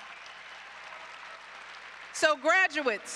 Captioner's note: applause